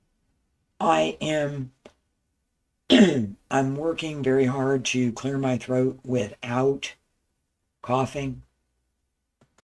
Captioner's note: coughs